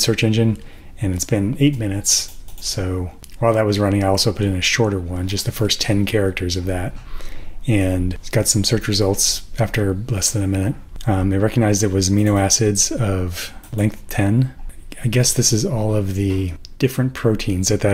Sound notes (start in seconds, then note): none